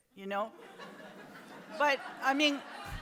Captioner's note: audience laughs